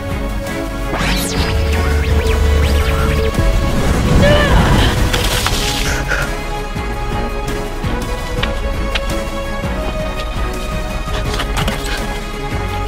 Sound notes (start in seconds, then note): 0.9 whirring; 4.0 whooshing; 5.6 splashing; 9.7 triumphant music